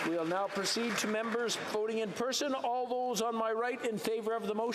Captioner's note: applause